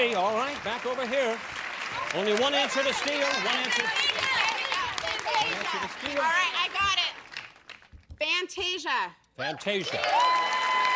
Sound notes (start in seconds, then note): 4.7 shouting